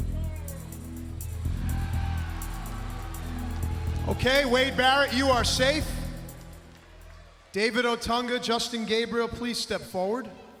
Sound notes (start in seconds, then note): 1.3 crowd cheering